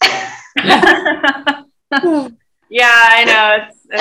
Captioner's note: laughter